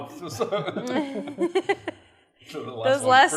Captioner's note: chuckling